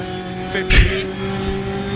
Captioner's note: laughs